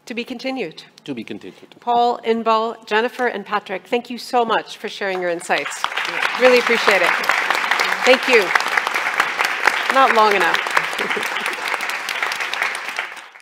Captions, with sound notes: - To be continued. - To be continued. - Paul, Inbal, Jennifer and Patrick, thank you so much for sharing your insights. (audience applauding) Really appreciate it. Thank you. Not long enough.